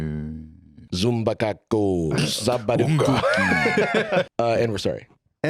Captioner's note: chanting, or perhaps casting a spell